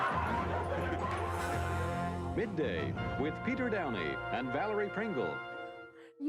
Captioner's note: laughter